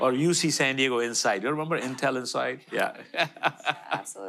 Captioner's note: audience laughter